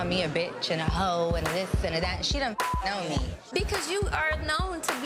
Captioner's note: beep